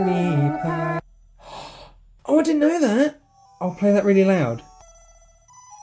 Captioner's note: gasp